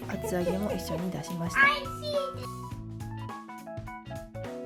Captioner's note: children's voice